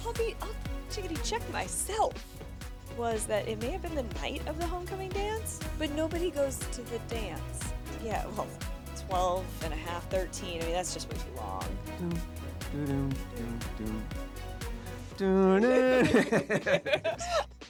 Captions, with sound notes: I'll be up, Chigaty, check myself. Was that it may have been the night of the homecoming dance, but nobody goes to the dance. Yeah, 12 and a half, 13, I mean, that's just way too long. (humming)